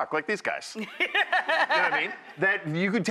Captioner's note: laughing